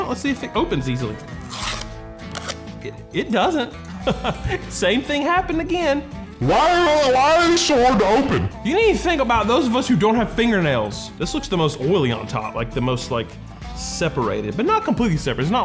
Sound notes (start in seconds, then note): 1.3 paper ripping